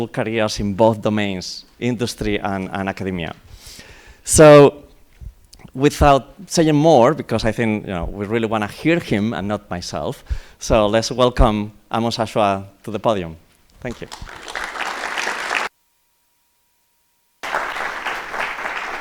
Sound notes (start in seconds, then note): 13.8 applause